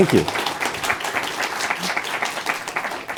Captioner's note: applause